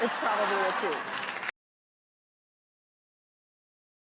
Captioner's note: clapping